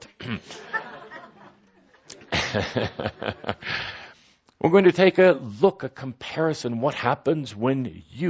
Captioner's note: laughter, Kuthumi chuckles